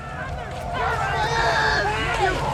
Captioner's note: yelling